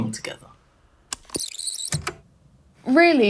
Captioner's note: the tape whirrs, fast forwarding